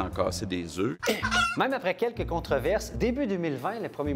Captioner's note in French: caquètement de poule